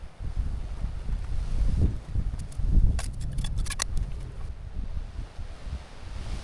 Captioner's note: wind blowing